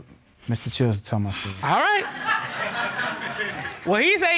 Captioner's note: audience laughing